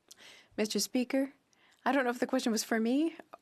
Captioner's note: speaking French